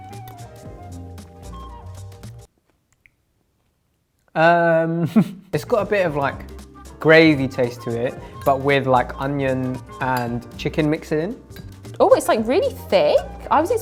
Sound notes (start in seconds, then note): 0.0 upbeat corny music; 2.9 music stops abruptly; 5.0 chuckles